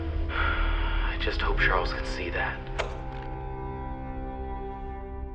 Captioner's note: Arthur sighs; recording clicks off